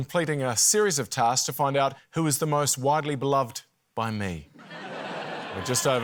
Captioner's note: laughter